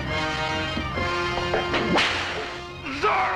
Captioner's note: whip cracking